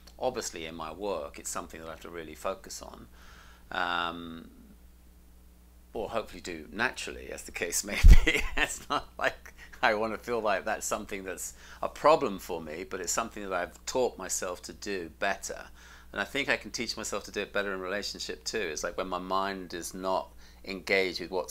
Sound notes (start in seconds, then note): 8.1 laughs